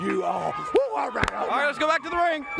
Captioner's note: hands clapping